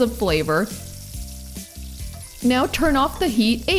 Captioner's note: onions sizzling